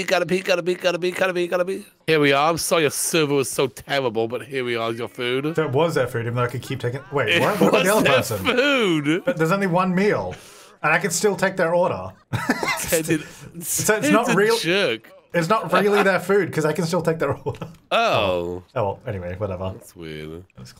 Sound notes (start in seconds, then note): 12.3 laughing